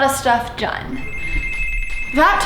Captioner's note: intercom ringing